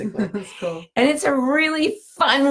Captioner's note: laughs